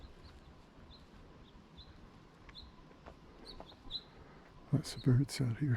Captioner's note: bird Song